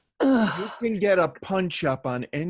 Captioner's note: groans